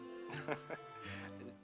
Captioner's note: laughs